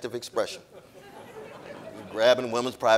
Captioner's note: audience laughing